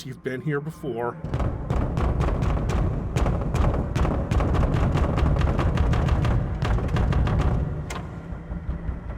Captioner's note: pounding on door